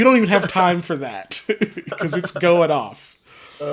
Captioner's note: also laughing; laughs